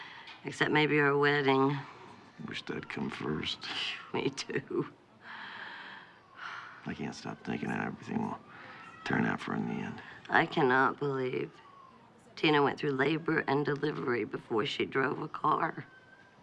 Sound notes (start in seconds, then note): 3.9 laughs; 5.3 evie sighs